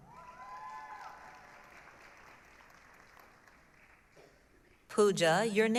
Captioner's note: applause, cheering